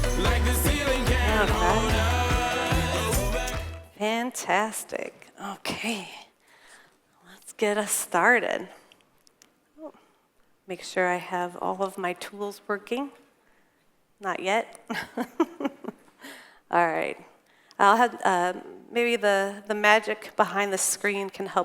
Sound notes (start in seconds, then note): 14.9 chuckles